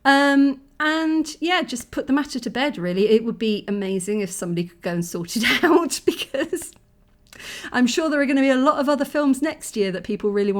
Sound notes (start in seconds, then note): 5.7 laughing